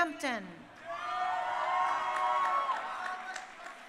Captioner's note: crowd cheering